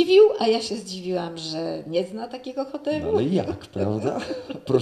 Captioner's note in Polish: śmiech